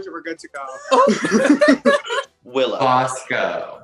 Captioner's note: laughs